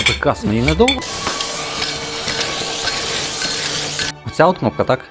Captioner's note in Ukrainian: шум пилосмока